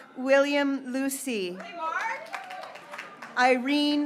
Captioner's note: graduates cheering